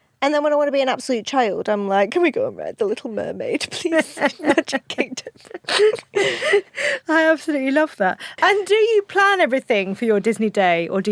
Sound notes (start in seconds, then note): 4.0 both laugh